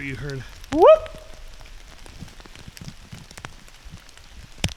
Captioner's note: whooping sharply